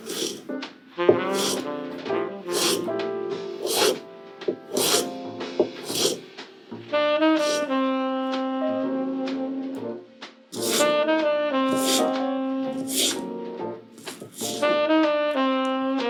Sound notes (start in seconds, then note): 5.0 smooth slicing sounds